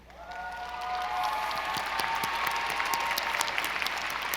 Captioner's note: audience applauding